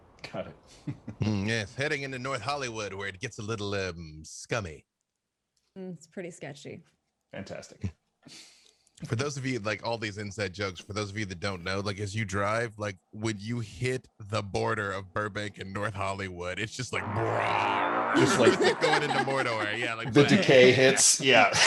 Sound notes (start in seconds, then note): 17.0 braaammm; 18.1 laugh